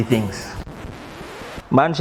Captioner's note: record scratches